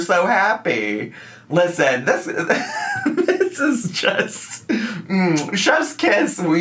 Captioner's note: laughs